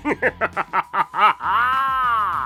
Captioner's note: laughs